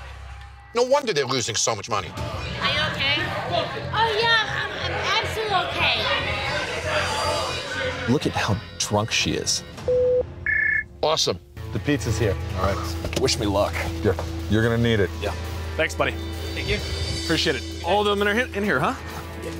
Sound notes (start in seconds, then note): 10.4 phone ringing